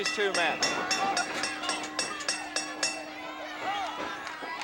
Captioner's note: bell dinging